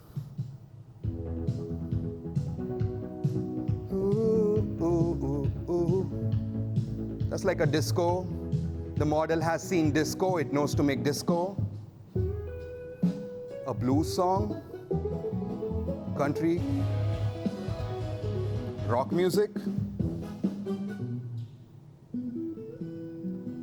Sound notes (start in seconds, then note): 0.1 disco music playing; 3.8 humming